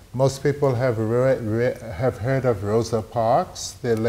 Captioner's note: none